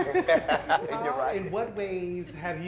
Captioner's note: laughter